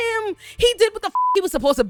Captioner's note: beep